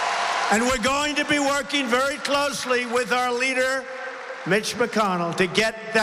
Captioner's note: applause